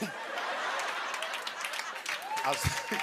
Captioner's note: laughter; applause